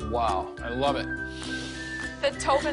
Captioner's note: family sniffs air